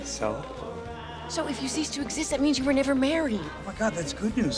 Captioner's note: none